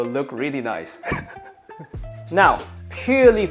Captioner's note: laughs